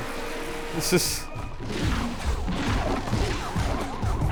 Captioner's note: tech sounds